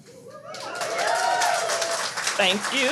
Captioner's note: audience cheers